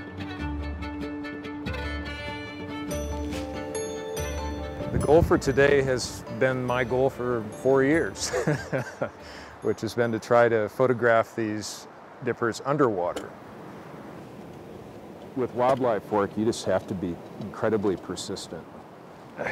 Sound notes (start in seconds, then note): 3.0 gentle upbeat music; 8.2 laughing